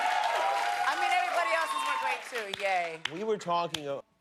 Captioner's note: cheers and applause